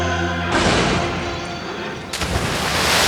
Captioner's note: car crash; loud water splash